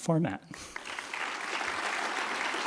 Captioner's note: applause